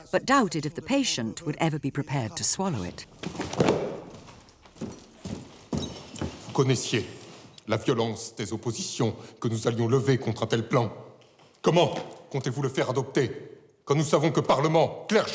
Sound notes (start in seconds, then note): 3.2 book thuds; 6.6 Louis XVI speaking in French